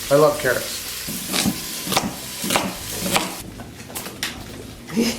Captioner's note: knife clunking